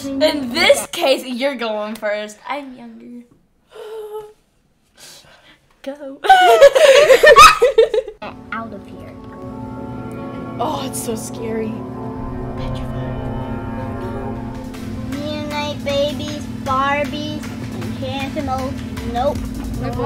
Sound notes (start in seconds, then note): 6.1 imitates scream; 7.3 squeals; 9.9 tense music